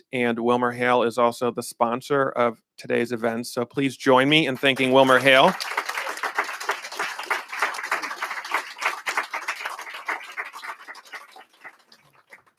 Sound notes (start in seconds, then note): 4.4 applause